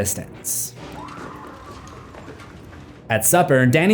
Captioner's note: audible scream